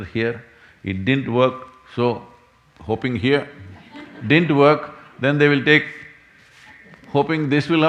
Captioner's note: laughter